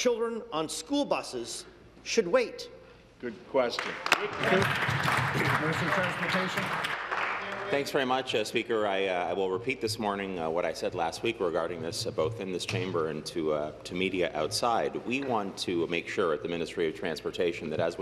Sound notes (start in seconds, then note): 8.5 applause